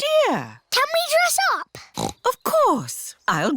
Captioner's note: snorts